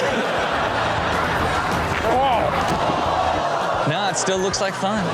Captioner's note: audience laughs